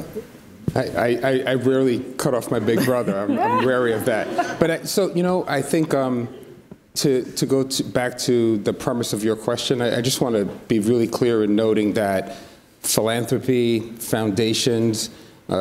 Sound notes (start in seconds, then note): 4.4 audience laughs